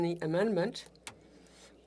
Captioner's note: speaking French